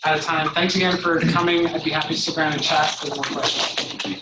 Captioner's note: applause